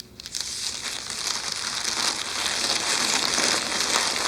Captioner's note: paper rustles